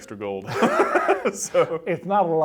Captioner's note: laughs